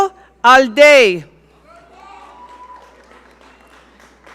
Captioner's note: audience cheering